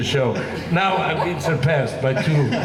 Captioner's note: laughing